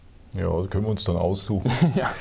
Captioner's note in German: lacht